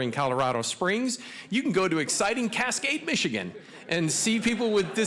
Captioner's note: audience laughing